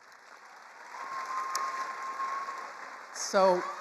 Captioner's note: attendees applauding